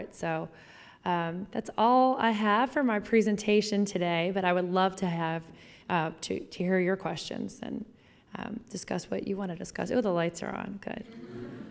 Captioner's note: laughing